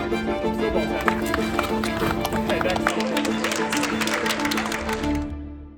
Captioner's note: applause